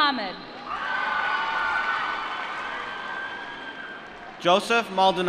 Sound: applause

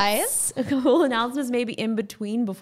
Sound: laughing

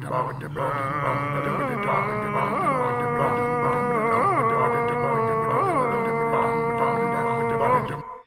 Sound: extremely Polish vocalizations

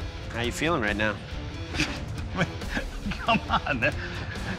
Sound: laughs

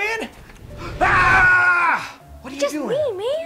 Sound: screams

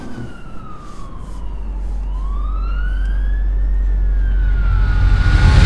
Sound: police sirens in distance

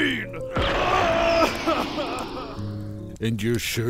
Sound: crying

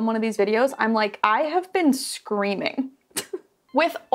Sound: laughs

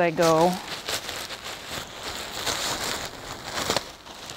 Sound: gown rustling

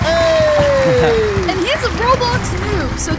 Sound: audience cheering and applauding; laughing happily

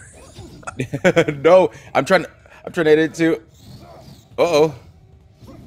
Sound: laugh

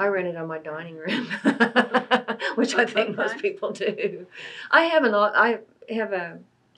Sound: laughs

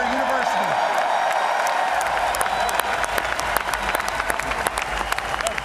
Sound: cheers and applause

